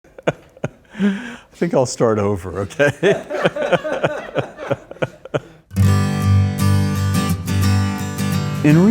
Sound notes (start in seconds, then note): 0.1 laughing; 2.7 laughing; 5.6 upbeat guitar music